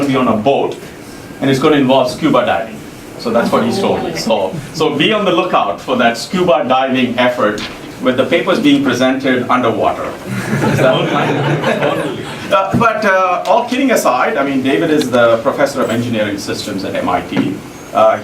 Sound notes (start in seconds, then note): 10.2 laugh